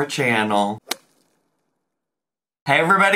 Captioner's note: whip cracks